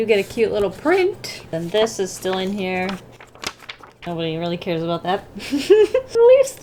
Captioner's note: laughs